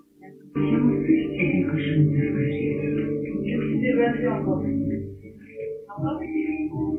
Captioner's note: TV in background